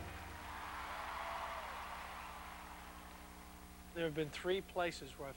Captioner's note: crowd cheering